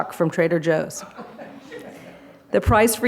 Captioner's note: laughter